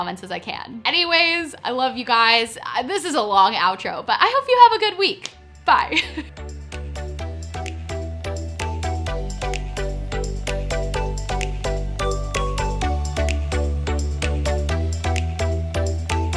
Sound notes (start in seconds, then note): 5.8 chuckles; 7.8 upbeat music